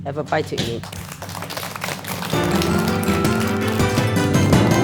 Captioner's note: everyone applauds